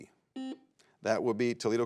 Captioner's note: buzzer beeps